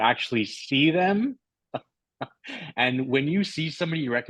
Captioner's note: laughter